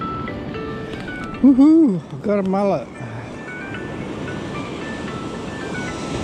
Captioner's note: phone ringing